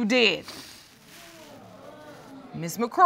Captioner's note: audience groaning